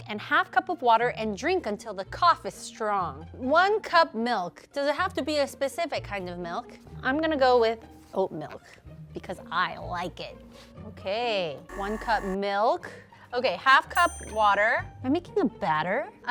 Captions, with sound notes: and half cup of water and drink until the cough is strong. One cup milk. Does it have to be a specific kind of milk? I'm gonna go with oat milk because I like it. Okay, one cup milk. (buzzer ringing) Okay, half cup water. (bell dinging) I'm making a batter?